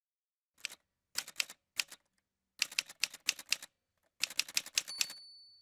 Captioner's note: typewriter sounds